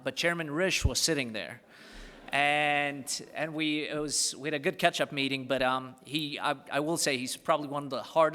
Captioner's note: laughter